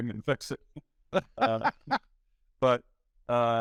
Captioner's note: laughing